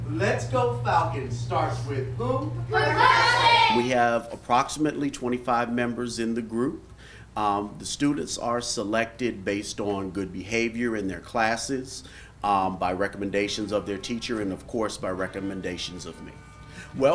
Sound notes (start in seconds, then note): 2.7 children shouting